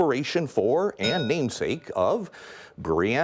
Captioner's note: bell rings